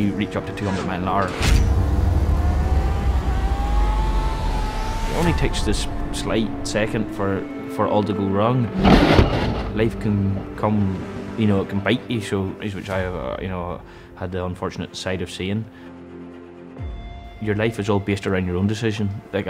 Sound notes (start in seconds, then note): 8.7 crashes and thuds; 15.6 dramatic music